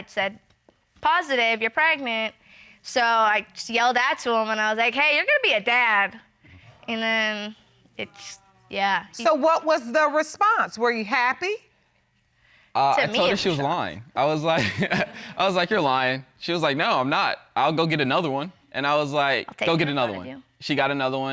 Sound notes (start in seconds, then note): 14.6 chuckles